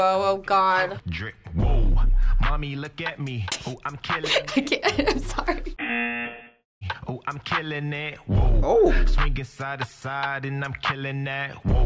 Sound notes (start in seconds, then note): 4.2 laughs; 5.8 buzzer